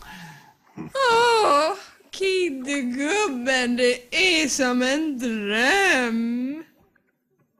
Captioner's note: sigh